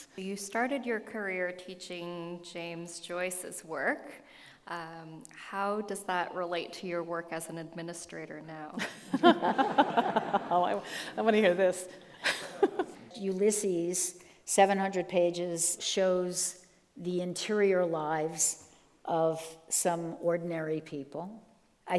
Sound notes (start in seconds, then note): 8.8 group laughing; 12.2 laughs